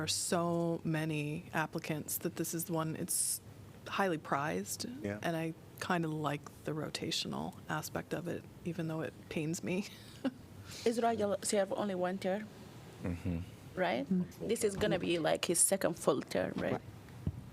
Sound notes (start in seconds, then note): 9.9 laughter